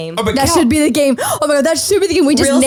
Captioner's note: gasps